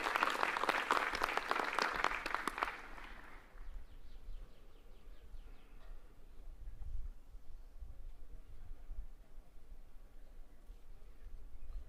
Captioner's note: applause